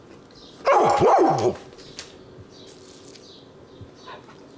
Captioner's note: dog barking